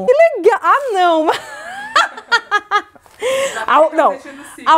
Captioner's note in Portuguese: risos